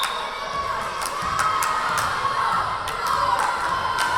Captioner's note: whistle blowing; yelling